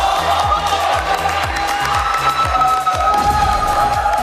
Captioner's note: clapping